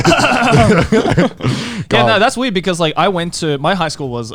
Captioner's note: clearing voice; chuckling